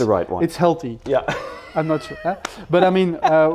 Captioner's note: laughs